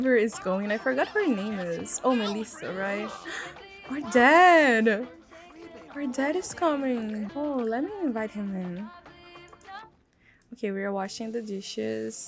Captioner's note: gasp